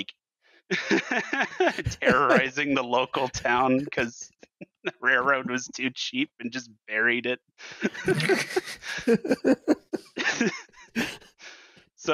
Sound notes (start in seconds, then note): 0.7 laughs; 7.6 laughter